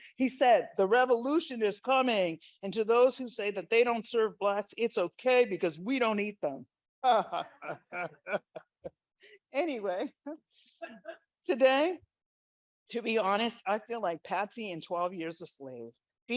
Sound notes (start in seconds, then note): 7.2 laughs